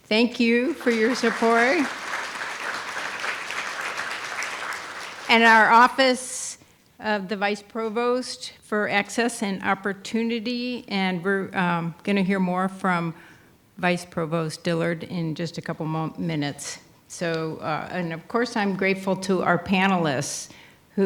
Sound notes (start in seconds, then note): 2.0 audience applauding